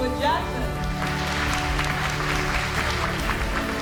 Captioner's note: applause